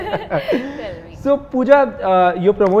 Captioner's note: laughs